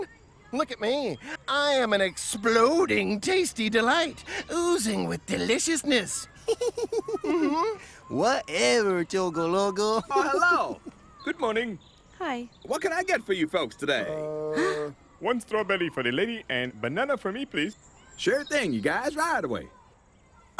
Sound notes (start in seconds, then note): 5.9 laughs